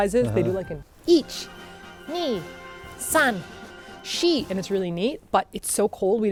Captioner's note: counts in japanese